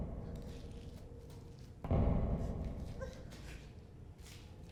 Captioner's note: heavy footsteps